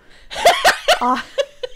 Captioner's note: laughing